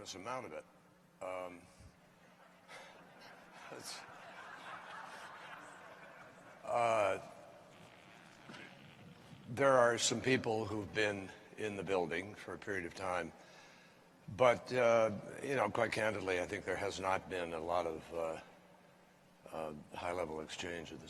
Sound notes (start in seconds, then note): 2.3 laughter